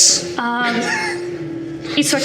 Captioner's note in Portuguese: risada